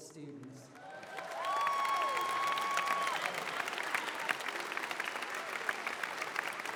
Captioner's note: applause, cheering